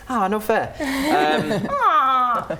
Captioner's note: laughing